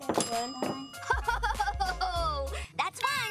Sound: laughing

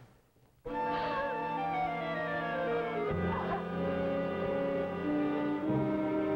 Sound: Marie Louise, sobbing

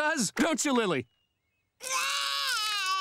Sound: crying

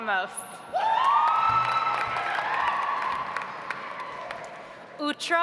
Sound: audience applauds

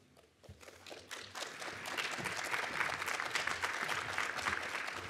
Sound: audience applauds

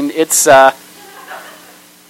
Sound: laughter

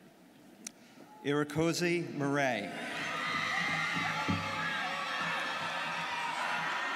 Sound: students cheering

